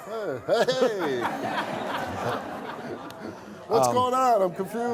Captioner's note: audience laughing